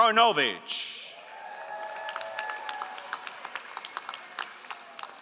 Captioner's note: all applauding